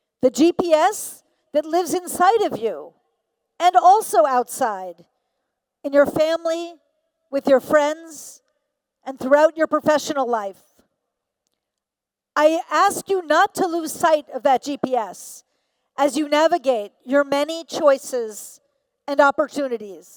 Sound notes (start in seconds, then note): none